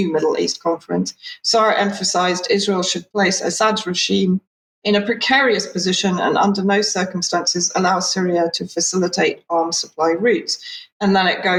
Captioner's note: speaking in Hebrew